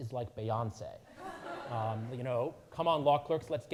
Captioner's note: audience laughing